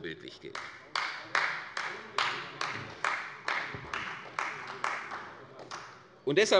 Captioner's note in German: Beifall bei Abgeordneten der CDU und dem BÜNDNIS 90/DIE GRÜNEN